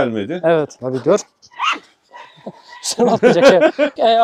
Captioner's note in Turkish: Gülüşmeler